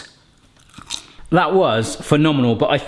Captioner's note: pastry crunches